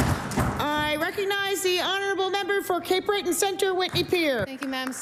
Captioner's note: applause